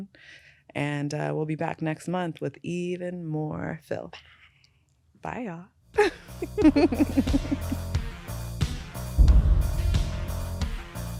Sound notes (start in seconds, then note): 6.0 both laughing